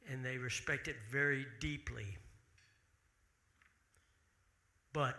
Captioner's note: none